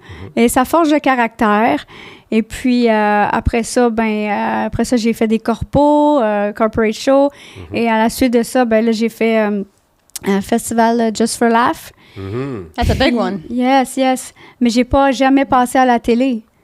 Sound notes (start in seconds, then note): 0.3 in french; 13.7 in french